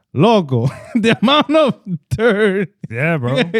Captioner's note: speaking In Foreign Language